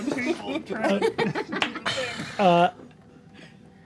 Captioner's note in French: rires